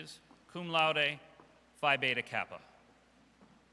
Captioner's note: none